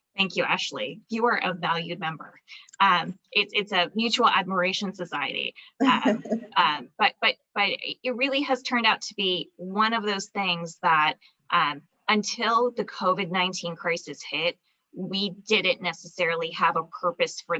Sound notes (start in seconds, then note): 5.8 laughs